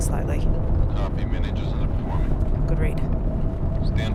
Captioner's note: Joe Over Radio